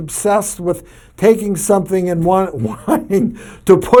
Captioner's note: laughs